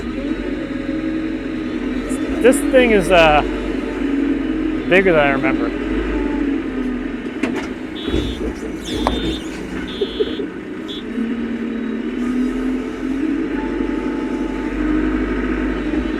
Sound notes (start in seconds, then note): 9.8 laughing